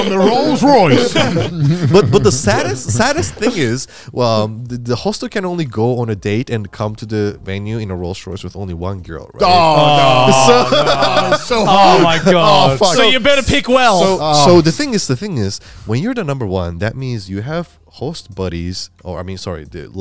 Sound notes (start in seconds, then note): 0.0 all laughing; 0.0 group chattering; 9.7 group chattering